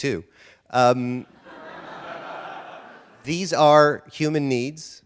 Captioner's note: audience laughter